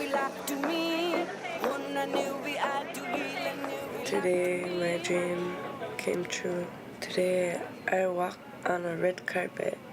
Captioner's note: speaking in inuktitut